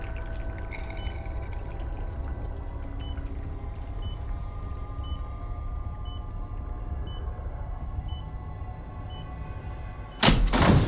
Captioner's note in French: Bip rapide de l'ECG